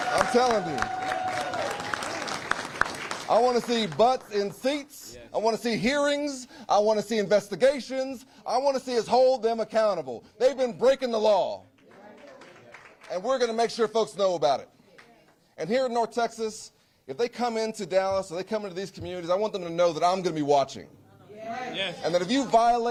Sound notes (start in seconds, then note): 0.0 cheers; 2.1 applause